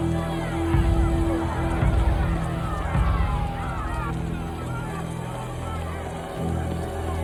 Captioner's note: crowd continues clamoring; dramatic music continues